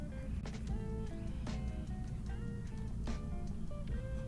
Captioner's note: none